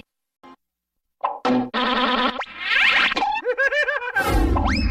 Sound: cartoon sounds continuing still

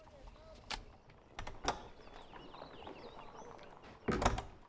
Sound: door latch clicks

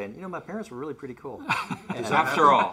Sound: laughs

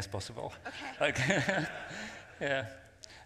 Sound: laughs

